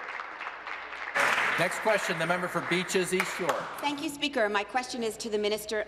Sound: applause

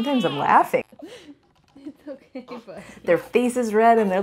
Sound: baby crying; laughs - "it's okay, buddy"

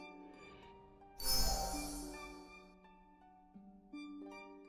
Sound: picture whooshing

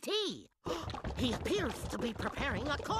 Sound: gasping

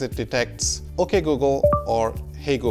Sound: low beep

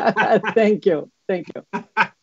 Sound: laughs

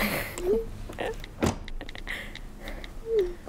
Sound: giggles

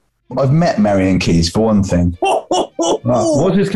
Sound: chortling

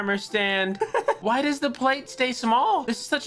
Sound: laughs

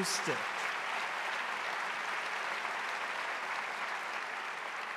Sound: audience applauding

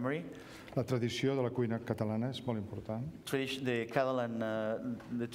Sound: speaking catalan

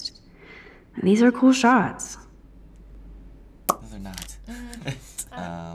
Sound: chuckles

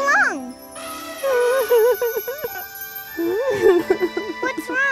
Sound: crying

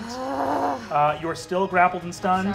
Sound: groaning

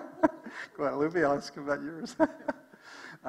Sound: laughter

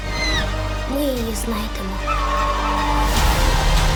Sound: calls; howls

